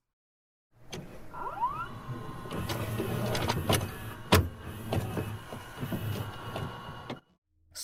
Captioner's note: VHS noises